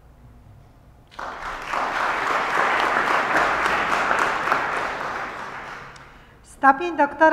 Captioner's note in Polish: oklaski